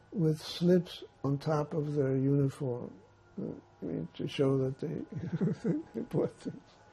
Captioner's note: laughing